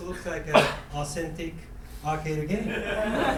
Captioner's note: coughing; laughing